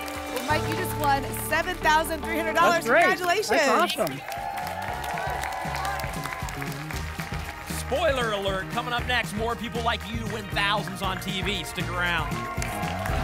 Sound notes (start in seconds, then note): 5.3 applause and cheering